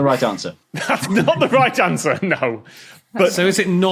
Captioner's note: laughs